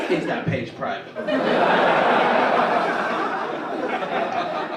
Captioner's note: audience laugh